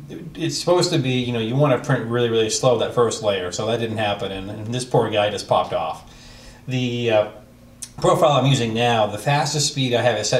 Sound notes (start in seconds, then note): none